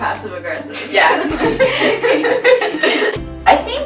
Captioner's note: all laughing